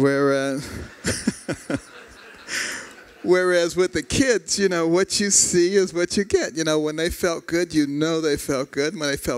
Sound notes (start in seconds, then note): 0.6 �laughter�